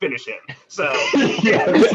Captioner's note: laughter